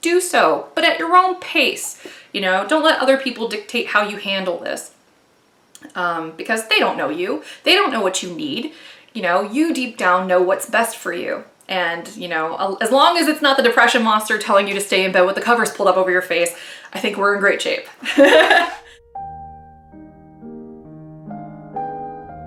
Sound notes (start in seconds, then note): 18.0 laughing; 18.9 gentle piano music